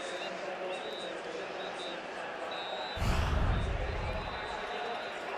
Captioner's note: pa announcement